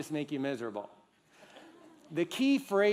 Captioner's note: laughter